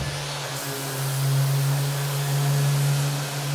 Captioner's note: sander whirring